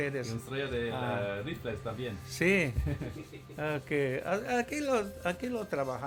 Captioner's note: speaking Mayan; speaking Spanish; speaking Mayan